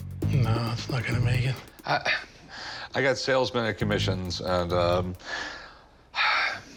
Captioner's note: scoffs; sighs